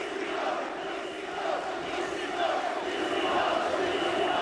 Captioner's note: crowd chanting